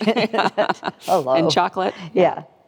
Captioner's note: both laughing